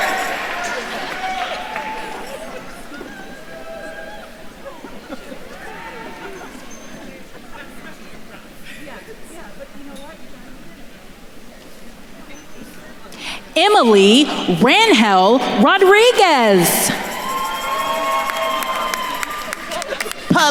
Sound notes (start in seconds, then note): 0.0 attendees cheering; 2.6 attendees chattering; 17.3 attendees cheering and applauding